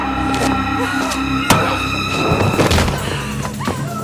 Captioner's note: grunting